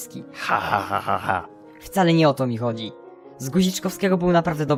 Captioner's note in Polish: ironiczne